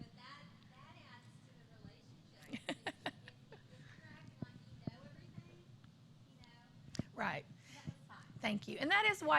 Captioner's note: laughter